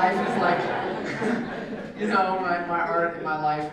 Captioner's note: laugh